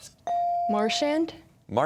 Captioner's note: whispering